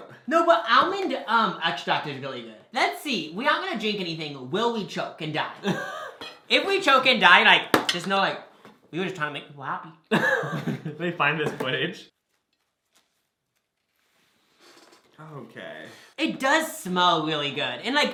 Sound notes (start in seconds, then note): 5.6 laughs; 10.1 laughs